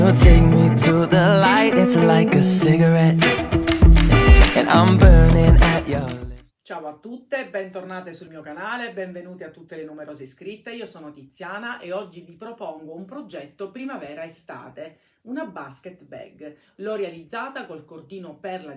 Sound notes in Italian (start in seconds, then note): 3.6 Applauso